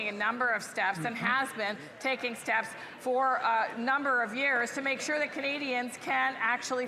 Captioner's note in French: voix de l'interprète